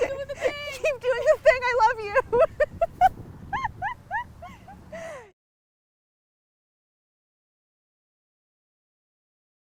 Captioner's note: laughing; laughing